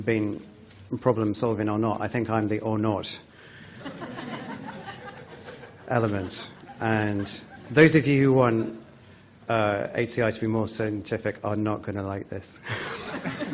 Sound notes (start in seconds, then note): 3.8 laughter